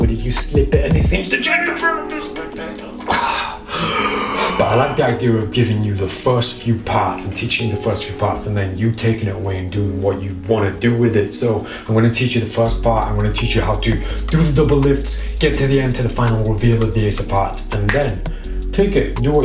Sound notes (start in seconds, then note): 2.8 coughs; 3.1 inhales heavily